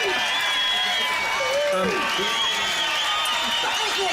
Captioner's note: cheers; clapping